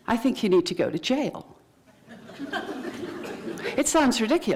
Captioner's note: laughter